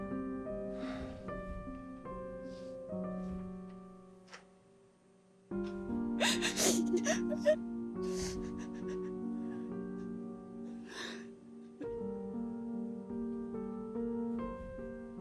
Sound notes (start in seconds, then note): 0.2 soft piano music; 6.2 crying; 12.1 soft piano music